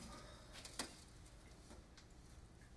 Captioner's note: sighing